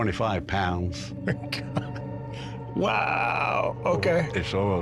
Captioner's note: chuckling